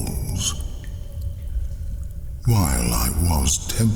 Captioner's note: cave noises